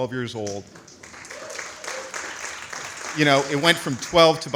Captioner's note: audience applauds